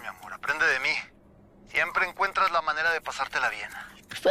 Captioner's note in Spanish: none